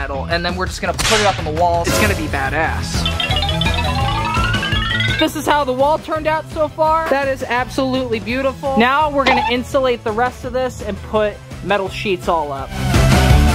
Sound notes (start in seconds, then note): 1.8 playful music continues; 3.0 cartoonish dinging; 13.3 energetic music